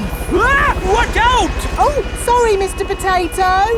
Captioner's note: screams